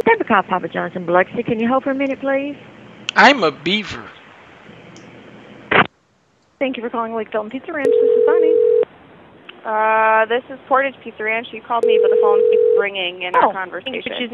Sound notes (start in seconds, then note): 7.8 phone ringing; 11.8 phone ringing